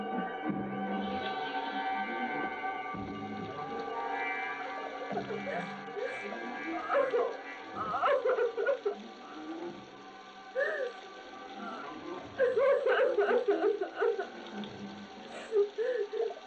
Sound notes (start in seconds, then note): 7.7 Anne sobbing; 12.3 sobbing